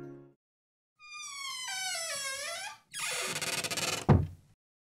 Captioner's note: door creaks and closes